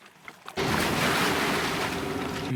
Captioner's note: water sloshes